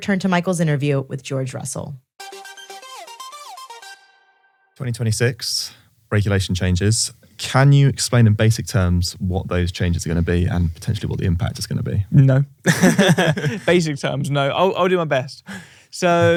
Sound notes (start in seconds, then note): 2.2 upbeat music; 12.6 both laughing